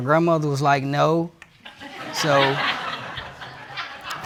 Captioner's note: audience laughing